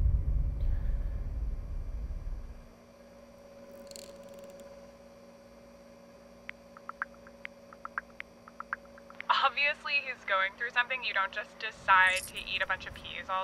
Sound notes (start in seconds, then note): 3.7 creaking noise